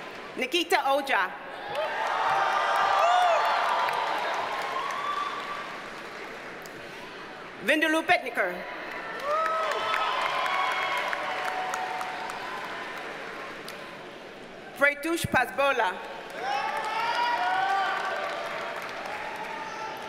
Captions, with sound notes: Nikita Ojha. (audience cheers and applauds) Vidhula Pednekar. (audience cheers and applauds) Pratyush Pasbola. (audience cheers and applauds)